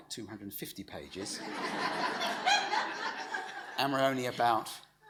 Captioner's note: audience laughs